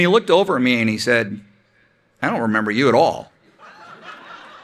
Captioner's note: laughter